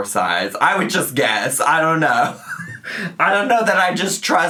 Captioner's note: chortles